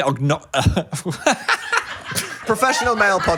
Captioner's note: laughs